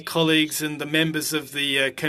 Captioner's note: speaking French